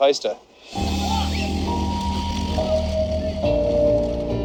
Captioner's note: man yells, Music & bike FX